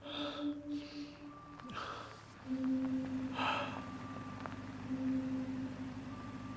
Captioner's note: sound of a car driving up to the house